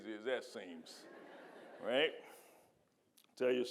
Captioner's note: audience laughing